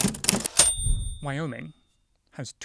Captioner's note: drumming; ding